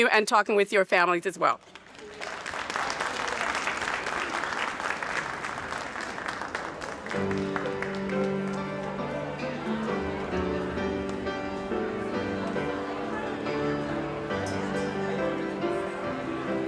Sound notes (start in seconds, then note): 1.6 audience applauding; 7.6 bright piano music